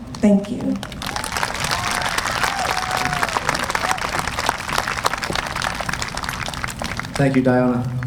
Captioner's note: applause